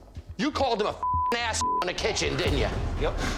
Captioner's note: beep